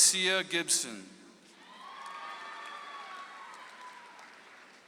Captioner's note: audience applauds